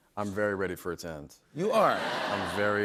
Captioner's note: laughter